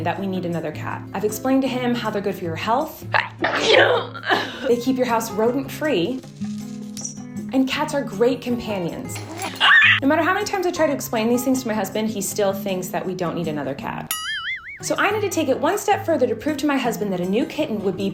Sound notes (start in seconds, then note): 3.4 sneezing and coughing; 9.5 screeching; 14.1 bell boinging